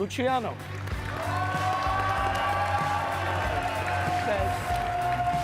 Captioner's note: audience cheering and clapping